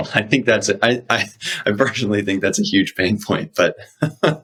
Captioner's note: laughs